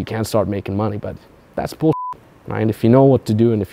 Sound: beep

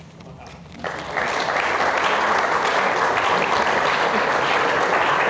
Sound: applause

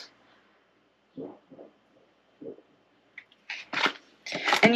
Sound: thudding

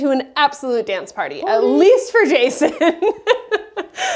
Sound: laughter

